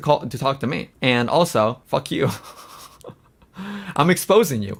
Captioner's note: laughs